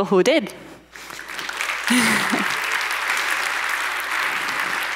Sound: audience applauds

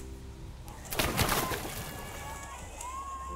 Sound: splashing sound; crowd cheering

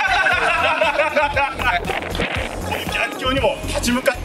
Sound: laughs

